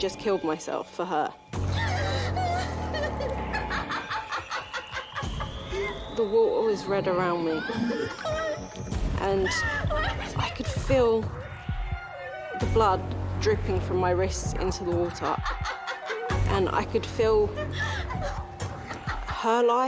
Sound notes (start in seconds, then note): 1.8 crying; 2.3 cackling